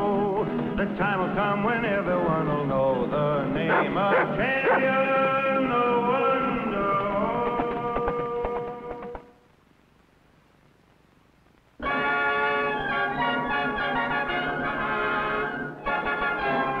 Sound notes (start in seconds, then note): 3.6 dog barks; 12.3 orchestral music